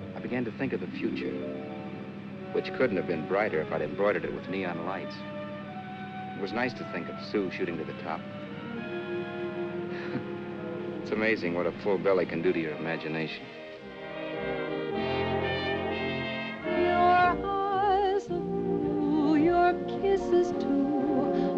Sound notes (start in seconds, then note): 9.9 chuckles; 13.9 romantic ballad